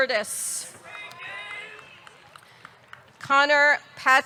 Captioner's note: audience clapping; audience cheering